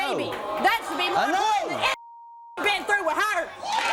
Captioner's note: beep; audience cheering